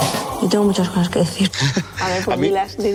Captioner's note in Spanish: Risas